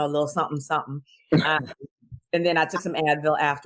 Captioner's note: laughs